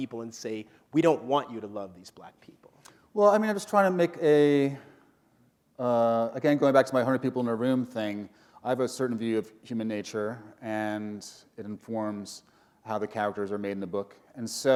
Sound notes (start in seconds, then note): none